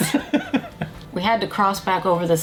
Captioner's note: both laugh